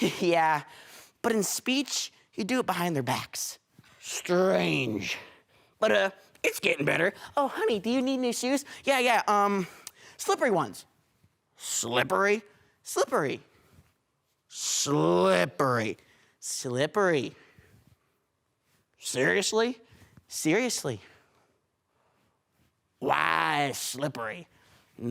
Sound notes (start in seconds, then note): 13.5 silence; 17.7 silence; 21.2 silence